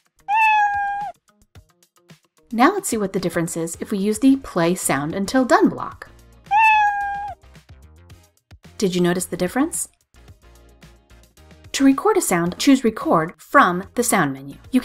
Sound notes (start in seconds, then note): 0.2 meow; 6.4 meow